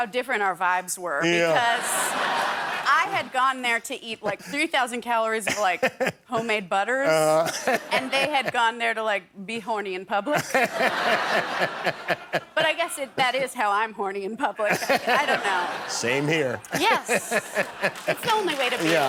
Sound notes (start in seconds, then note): 1.4 laughter; 5.4 laughter; 14.6 laughter